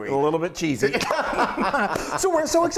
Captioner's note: laughter